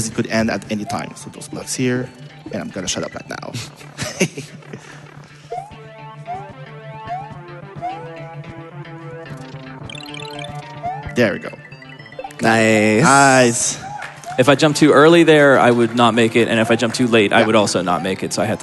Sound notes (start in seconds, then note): 9.8 star running out SFX